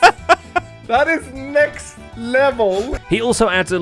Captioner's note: laughs